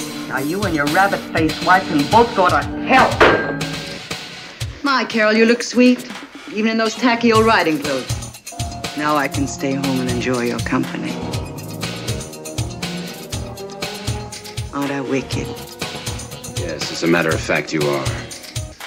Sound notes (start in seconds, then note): 3.2 phone slams